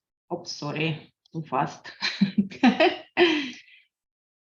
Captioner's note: chuckles